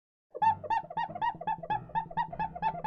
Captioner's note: squeaky noise